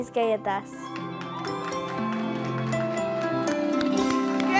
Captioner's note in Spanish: Ovación